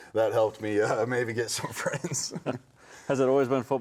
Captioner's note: laughing